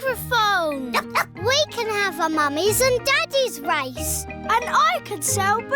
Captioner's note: barks